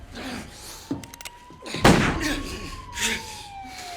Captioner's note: police sirens wailing; gunshot blares